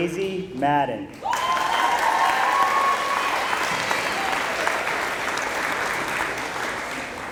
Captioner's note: applause